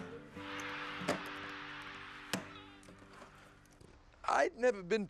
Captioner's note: crowd cheering